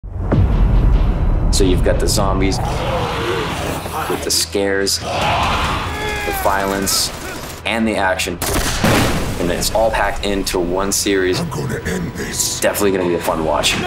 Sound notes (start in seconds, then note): 2.4 zombies roar; 5.5 zombies groan; 8.5 explosion booms